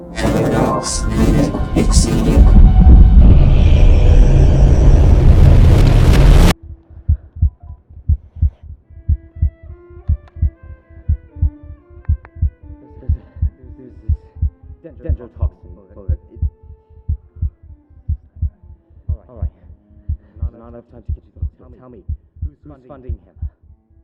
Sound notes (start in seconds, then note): 7.0 heartbeat slowing down